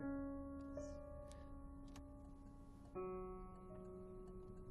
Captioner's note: whispering